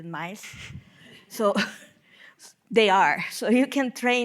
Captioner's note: laughing